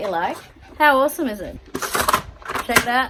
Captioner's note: components clickety-slide again